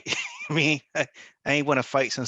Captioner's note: laughs